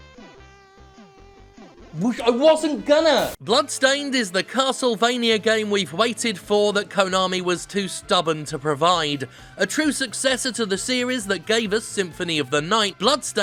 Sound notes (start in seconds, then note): 3.0 static